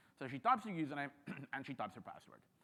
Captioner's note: clears throat